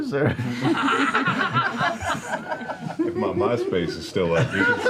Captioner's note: laughter